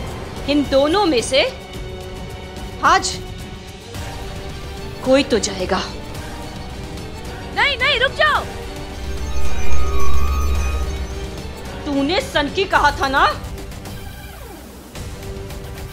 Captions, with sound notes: Out of these two, one has to die today. No, wait! [metallic sounds]